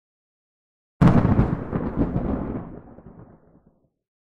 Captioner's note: thunder